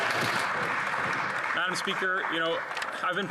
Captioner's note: some Applause